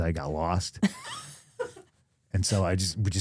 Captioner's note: chuckles